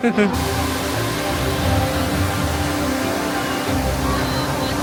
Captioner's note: water flowing